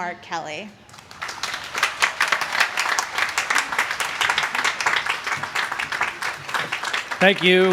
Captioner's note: applause